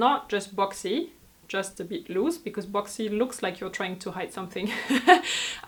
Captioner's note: laughs